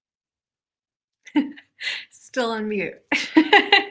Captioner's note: laughs